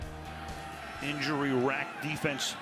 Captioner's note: cheering